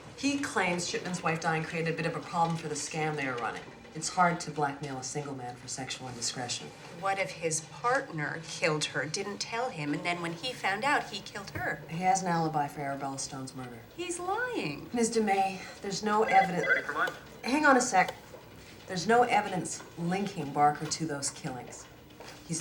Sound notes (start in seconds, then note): 15.8 phone ringing